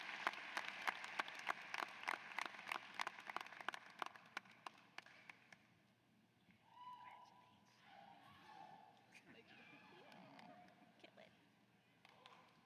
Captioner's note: cheers and applause